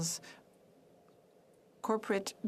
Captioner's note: speaking French